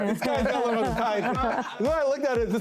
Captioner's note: laughing